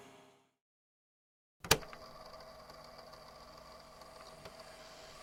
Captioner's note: fx: tape recorder starts, mild static